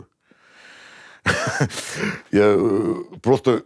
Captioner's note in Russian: смеется